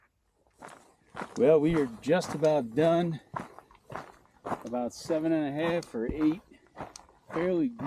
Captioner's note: gravel crunching underfoot